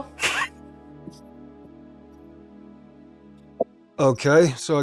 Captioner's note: laughing